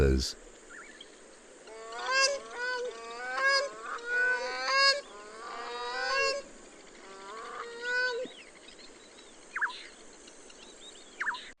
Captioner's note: birds chirping